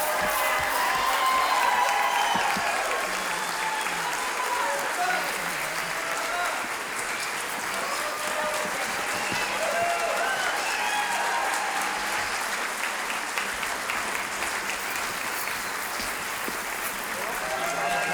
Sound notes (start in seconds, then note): 0.0 audience clapping; 0.2 audience cheering; 3.9 audience clapping; 10.3 audience cheering; 13.0 audience clapping